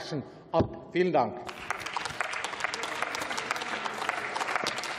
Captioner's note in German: Beifall